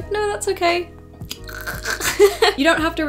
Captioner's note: choking sound